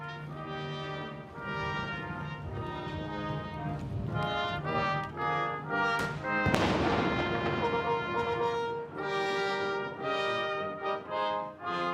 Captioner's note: 21-gun salute